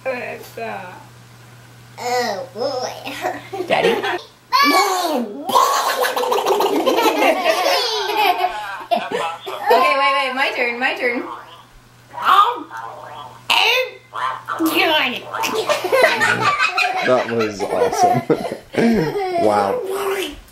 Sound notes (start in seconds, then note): 5.5 family laughing; 15.9 kids laughing